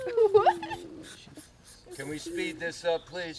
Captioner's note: riendo; silbido del rociado